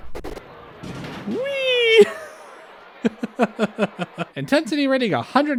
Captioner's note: laughter